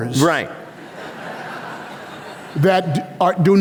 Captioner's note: laughter